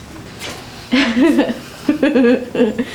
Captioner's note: laughing